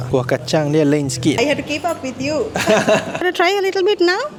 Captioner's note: laugh